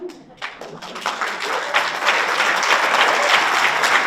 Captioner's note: audience applauds